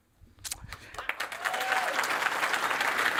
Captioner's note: applause